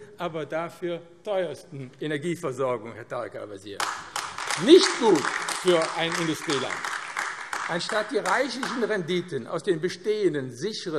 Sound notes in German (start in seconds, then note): 3.8 Beifall AfD